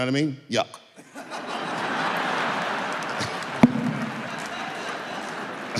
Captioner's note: audience laughing